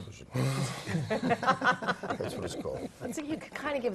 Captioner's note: laugh